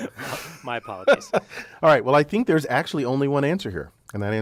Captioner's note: laugh